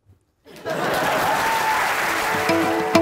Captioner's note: applause